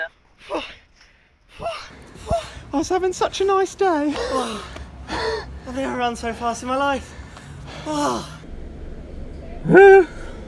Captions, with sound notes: - I was having such a nice day! - I've never run so fast in my life. [sigh] [excited, high-pitched squeal]